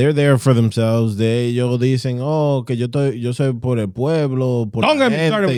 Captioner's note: speaking In Foreign Language